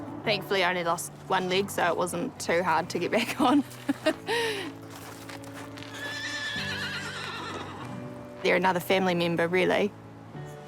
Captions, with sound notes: Thankfully, I only lost one leg, so it wasn't too hard (LAUGHS) to get back on. (HORSE NEIGHS) They're another family member, really.